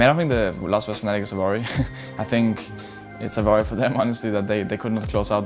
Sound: laughs

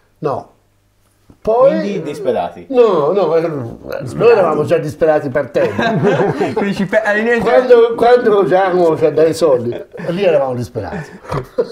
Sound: laughts

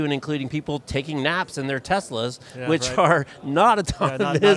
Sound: laughs

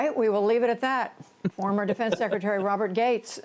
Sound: laughter

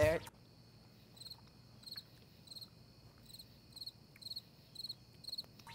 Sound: crickets chirping

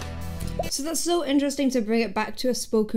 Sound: audio pops

